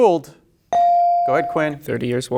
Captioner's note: bell ringing